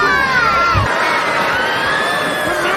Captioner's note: cheering, Chanting